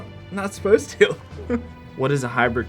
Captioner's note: giggling